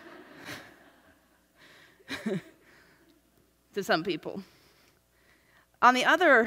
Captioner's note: laughs